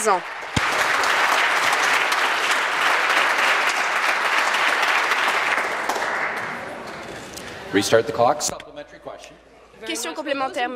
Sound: applause

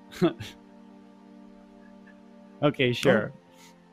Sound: chuckling

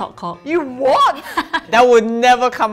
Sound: laughs

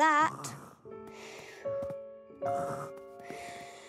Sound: snoring

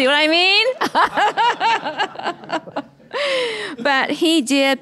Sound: laughing

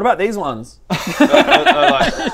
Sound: laughs

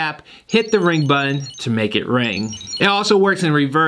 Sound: wallet rings

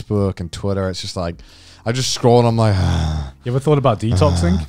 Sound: sighing

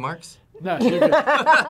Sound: both laugh

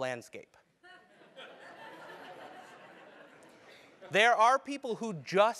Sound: laugh

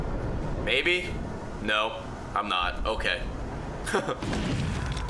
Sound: laughs

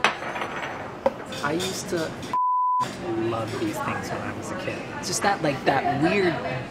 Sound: beeping

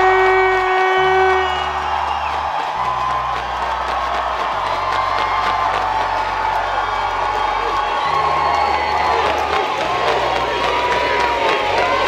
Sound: crowd cheering and chanting, Yvie, Yvie

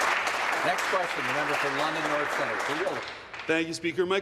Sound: applause

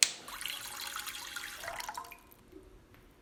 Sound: water dripping

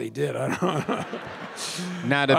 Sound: Bob and audience laughing

